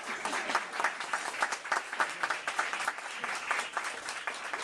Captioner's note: applause